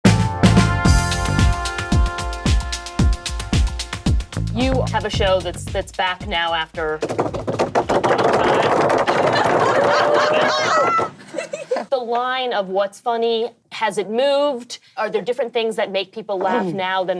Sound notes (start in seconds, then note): 0.0 upbeat music; 7.1 drumming on table; 7.1 laughing